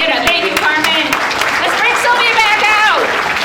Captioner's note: audience applauding